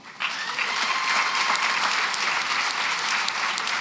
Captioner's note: applause